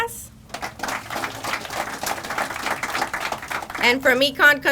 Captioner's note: crowd applauding